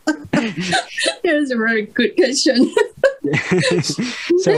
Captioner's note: Risas